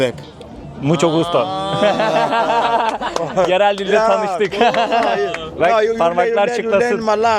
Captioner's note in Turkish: kahkaha